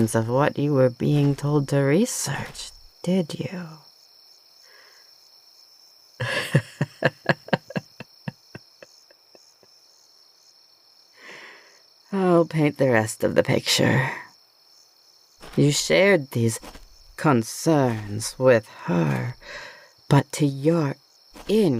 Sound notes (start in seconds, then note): 6.2 laughs